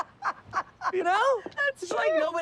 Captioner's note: laughing